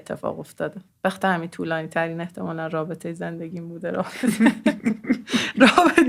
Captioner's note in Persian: خنده